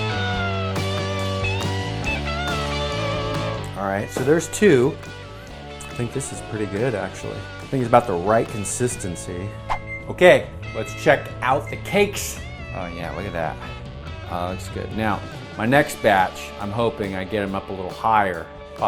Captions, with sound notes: All right, so there's two. I think this is pretty good actually. I think it's about the right consistency. (whoosh) (oven timer beeping) Okay, let's check out the cakes. Oh yeah, look at that. Oh, it looks good. Now, my next batch, I'm hoping I get 'em up a little higher.